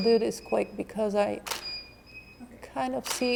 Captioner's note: shutter clicking